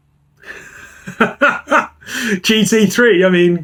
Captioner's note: man laughs